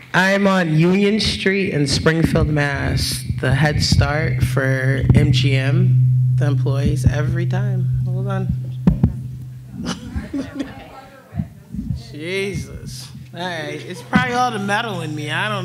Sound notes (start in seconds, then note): 9.8 laughs